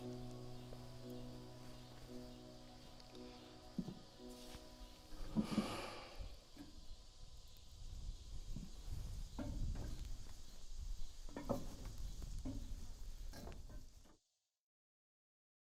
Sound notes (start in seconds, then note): 0.0 poignant music continuing to play; 5.2 crickets chirping